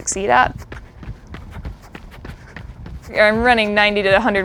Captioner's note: foot steps